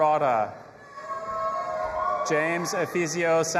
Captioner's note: audience applauding and cheering